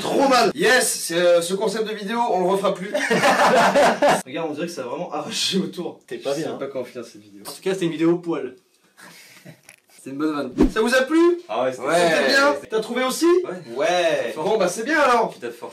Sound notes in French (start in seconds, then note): 2.9 rires; 8.8 rire léger